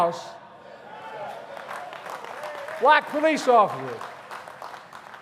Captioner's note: applause